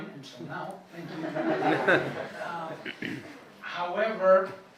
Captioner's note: laughing